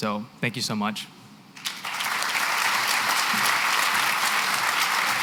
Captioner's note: applause